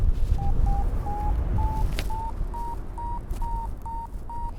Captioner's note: Vario beeps